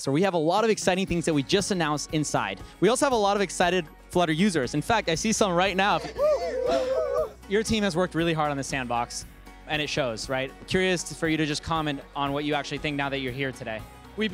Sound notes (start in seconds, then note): 6.0 cheering